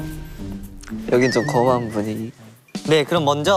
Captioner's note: whispers